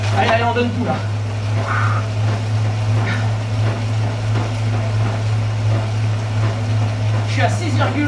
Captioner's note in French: soufflements